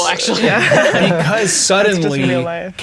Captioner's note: laughing